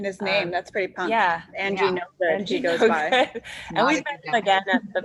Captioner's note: laughs